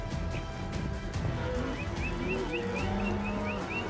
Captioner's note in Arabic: صافرة